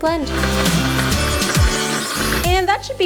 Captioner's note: blender whirring